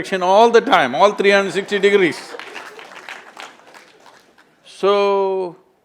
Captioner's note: laughter/Applause